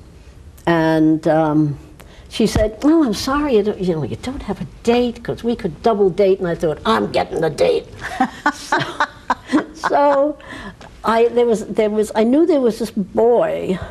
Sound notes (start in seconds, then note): 8.0 laughs